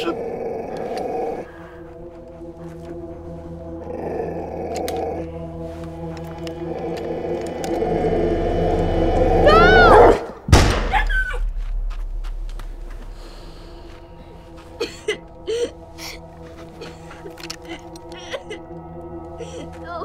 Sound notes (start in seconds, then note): 0.0 dog growling; 0.1 suspenseful music; 10.5 gunshot booms; 10.6 dog yelps; 14.7 sobs